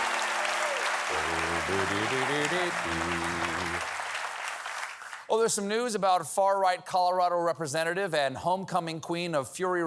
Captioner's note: applause